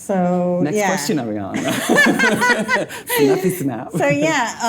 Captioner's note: laughing